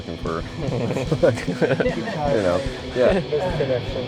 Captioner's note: laughter